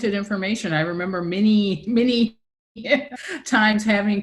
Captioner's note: laughs